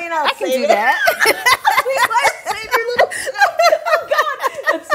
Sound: both laughing

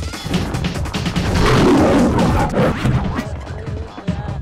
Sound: intense roar

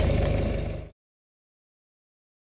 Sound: car Stoped

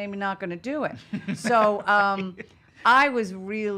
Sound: laughing

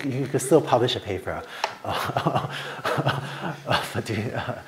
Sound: laughter

